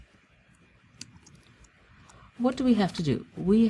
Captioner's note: pause